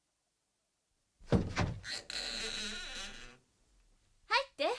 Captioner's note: SFX: door creaks open